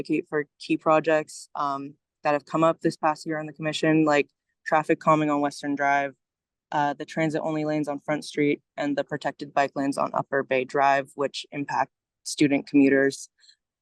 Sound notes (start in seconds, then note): none